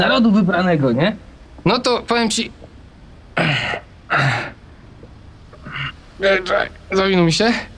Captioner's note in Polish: odgłosy stękania